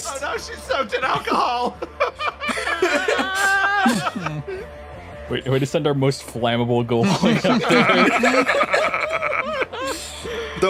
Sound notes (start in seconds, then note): 0.9 laughs; 2.8 screams x2; 7.0 laughs